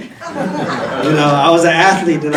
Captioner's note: audience laughing